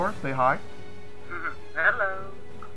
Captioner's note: chuckles